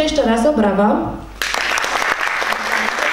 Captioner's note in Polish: oklaski